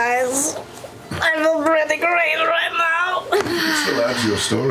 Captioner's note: sighs